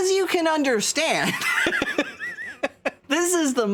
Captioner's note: laughs